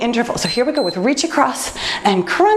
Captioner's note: timer beeps